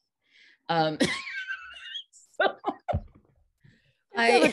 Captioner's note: all laughing